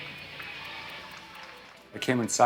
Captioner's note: applause